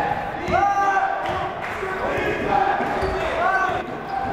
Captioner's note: yelling